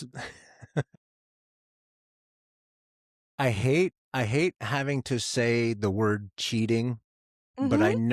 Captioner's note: laughs